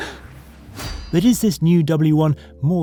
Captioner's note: laughs; metal clinks